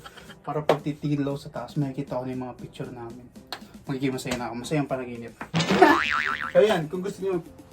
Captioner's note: laughs